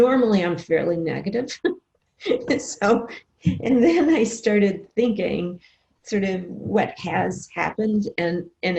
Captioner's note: laughs